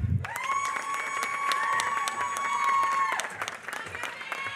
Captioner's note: applause